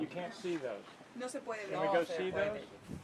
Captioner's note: speakers speaking in foreign language